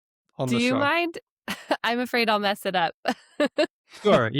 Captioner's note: chuckles; laughs